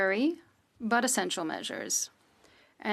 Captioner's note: speaking French